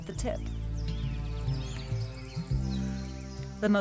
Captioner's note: birds chirping